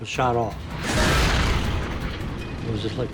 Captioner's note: shell exploding